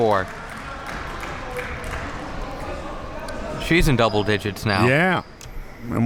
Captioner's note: spectators applauding